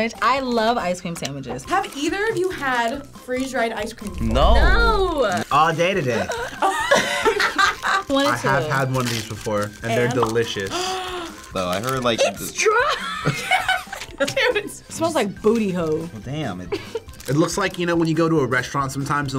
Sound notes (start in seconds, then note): 6.5 laughing; 10.7 gasping; 12.7 laughing